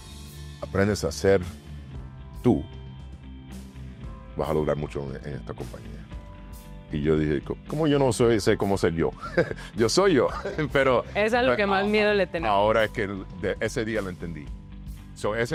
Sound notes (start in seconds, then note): 10.2 laugh